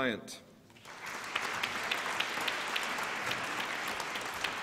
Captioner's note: applause